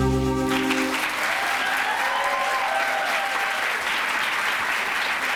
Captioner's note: applause